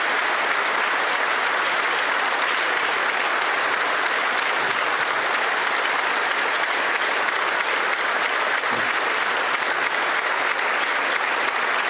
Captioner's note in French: applaudissements